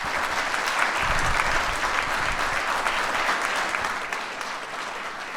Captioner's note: applause